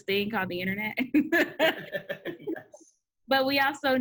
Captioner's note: laughs